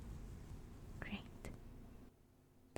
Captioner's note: brushing stops